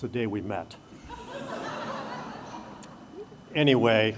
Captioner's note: laughter